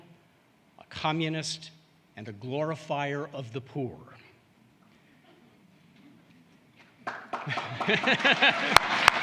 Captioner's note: applause